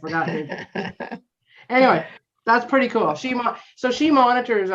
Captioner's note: chuckling